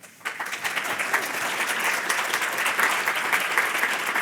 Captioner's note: audience applauding